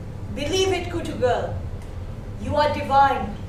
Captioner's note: speaking foreign language